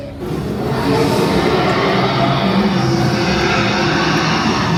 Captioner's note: dragon roars